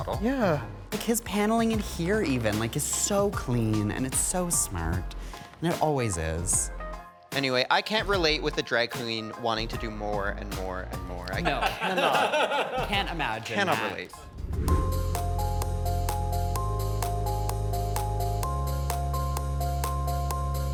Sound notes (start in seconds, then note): 11.4 all chuckling; 14.2 image whooshes; 15.0 gentle upbeat music